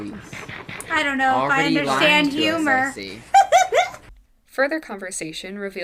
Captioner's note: Angel laughs